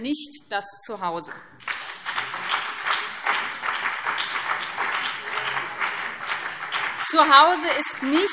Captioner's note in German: Beifall BÜNDNIS 90/DIE GRÜNEN und CDU